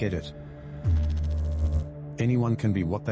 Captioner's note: electrical noise